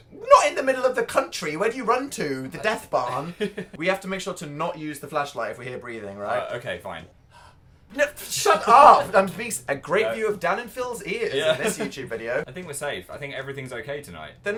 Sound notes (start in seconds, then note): 7.3 Phil breathes into Dan's ear